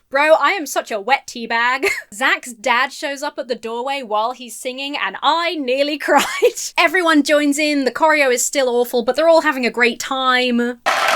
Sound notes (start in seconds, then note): 1.7 chuckles; 10.9 audience applauds and cheers